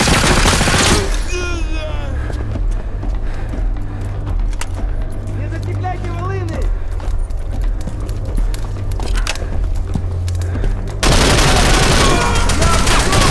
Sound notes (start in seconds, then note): 5.8 soldier yelling in russian